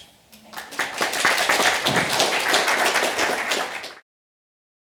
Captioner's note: audience applauding